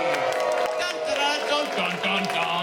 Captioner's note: cheers